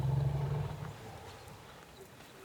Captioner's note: grunts